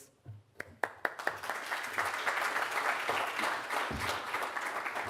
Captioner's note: audience applauds